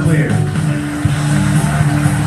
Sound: applause

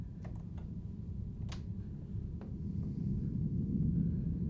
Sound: low rumble

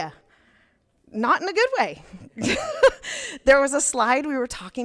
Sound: laughs

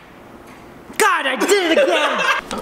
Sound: laughs

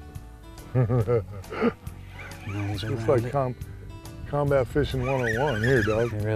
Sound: laughter

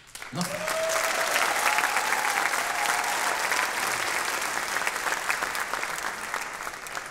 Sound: audience applauding

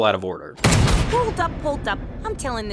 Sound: gun shot

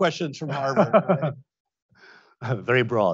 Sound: Tom laughs

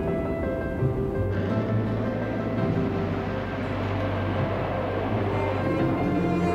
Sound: jet engines

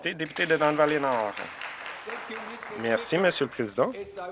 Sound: applause

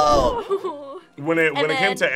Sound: laughs

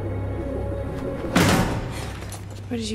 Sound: Vi slams into the bars, Caitlyn gasps

